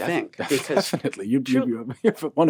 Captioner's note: laughing